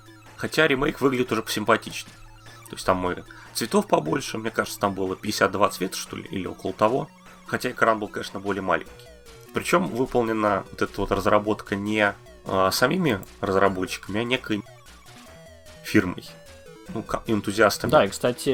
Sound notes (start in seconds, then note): 15.2 Russian